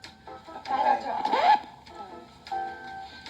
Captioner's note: record scratch; elevator music